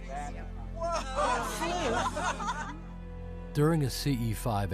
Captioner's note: všichni se rozesmějí úžasem